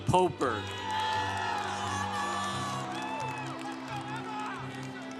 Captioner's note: congregation cheering